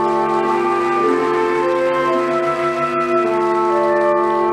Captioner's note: audience applauding